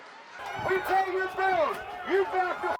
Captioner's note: shouting